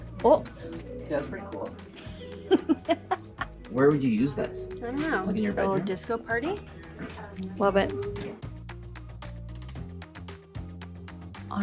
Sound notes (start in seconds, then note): 2.0 laughing; 9.0 upbeat music